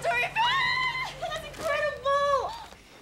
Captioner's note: mom yells happily